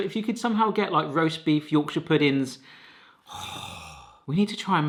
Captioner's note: groaning